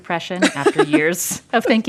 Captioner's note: laughter